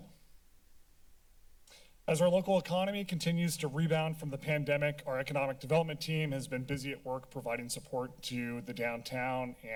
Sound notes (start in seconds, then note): 0.0 silence